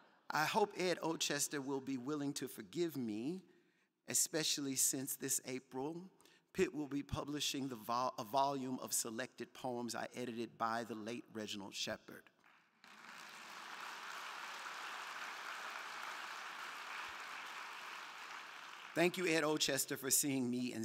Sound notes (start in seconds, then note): 12.4 crowd clapping; 12.8 crowd cheering